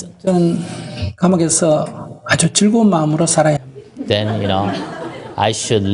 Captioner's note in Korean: 청중 웃음